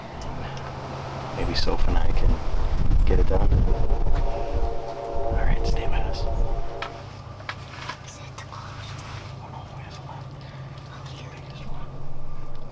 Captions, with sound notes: and maybe Soph and I can get it done. All right, stay mass. (whispering)